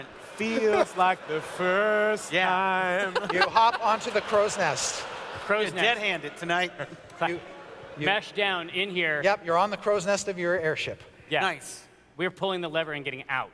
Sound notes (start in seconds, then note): 0.3 laughter